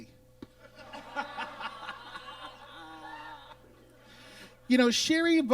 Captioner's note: audience laughs